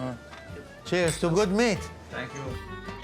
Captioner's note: glasses clink